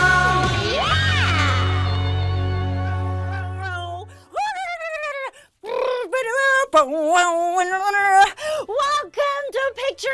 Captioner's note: makes funny music sounds